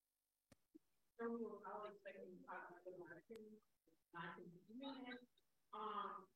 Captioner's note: speaking faintly